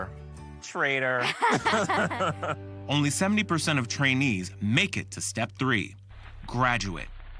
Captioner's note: both laughing